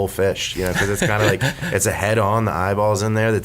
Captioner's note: laughs